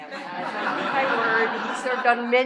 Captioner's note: laughter